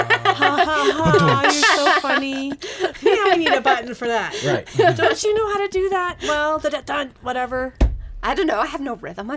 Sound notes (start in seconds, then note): 0.0 laughs